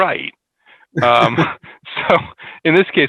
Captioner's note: laughs